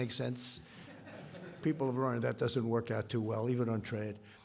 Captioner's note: laughter